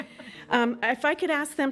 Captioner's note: laughing